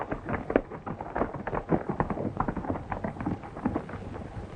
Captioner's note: horses galloping